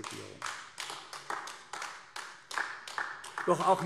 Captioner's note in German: Beifall AfD